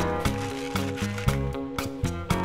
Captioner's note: paper crumpling